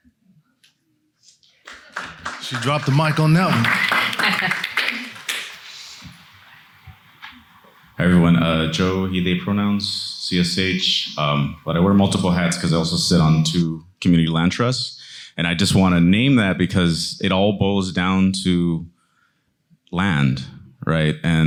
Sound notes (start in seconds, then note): 1.4 attendees clapping; 3.9 attendees clapping; 4.0 chuckles